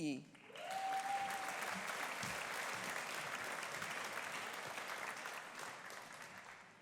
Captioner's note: audience applauding; audience cheering